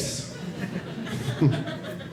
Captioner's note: audience laughing